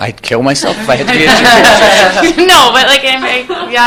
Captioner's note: laughter